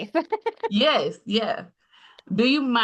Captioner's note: chuckles